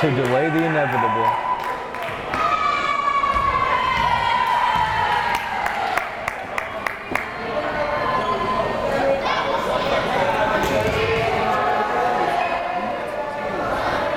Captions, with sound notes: to delay the inevitable. (players cheering) (crowd chatter)